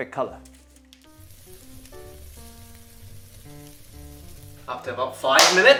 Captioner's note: sizzling sound